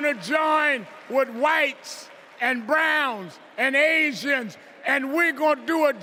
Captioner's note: cheers and applause